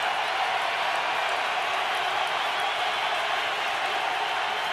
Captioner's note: cheering